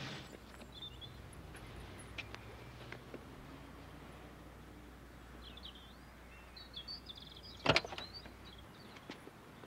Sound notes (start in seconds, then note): 0.1 birds chirping